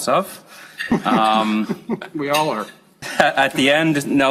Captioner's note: chuckle